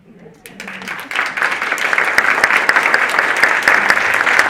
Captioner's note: audience applauding